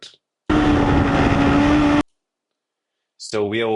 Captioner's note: tires screeching